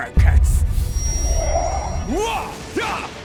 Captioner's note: magic whoosh